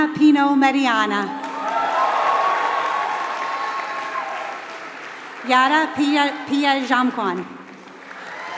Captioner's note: applause